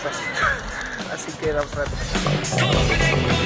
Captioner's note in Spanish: risa